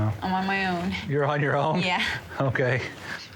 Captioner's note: chuckling